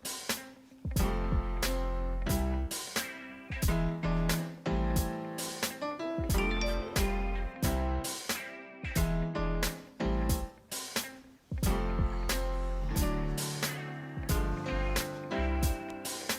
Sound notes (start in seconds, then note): 6.3 phone chimes